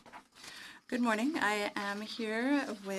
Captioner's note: speaking French